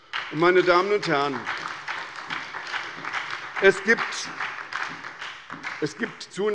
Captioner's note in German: Beifall bei der SPD